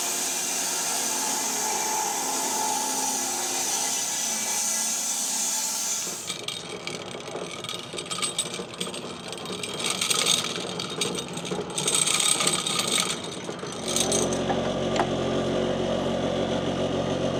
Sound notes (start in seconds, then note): 2.5 saw buzzing; 6.2 saw chassis rattling; 14.4 engine rumbling